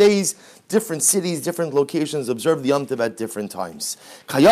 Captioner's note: Hebrew